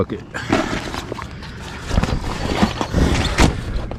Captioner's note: bag crackling